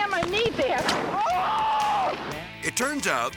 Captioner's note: driver screaming